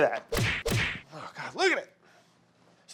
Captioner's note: punches blowing